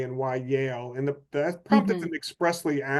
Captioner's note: faintly speaking